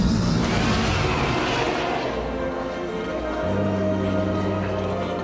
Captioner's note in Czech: dinosauři řvou